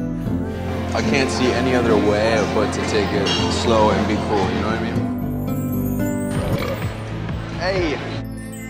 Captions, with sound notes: I can't see any other way, but to take it slow and be cool, you know what I mean? (burps) 'Ey!